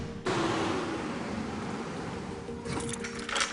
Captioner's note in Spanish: Ruido de la camioneta